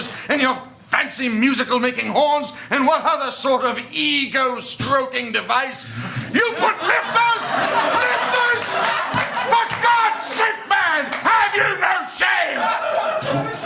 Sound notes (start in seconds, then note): 6.4 laughter